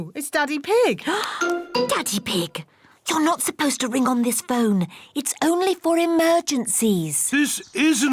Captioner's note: gasps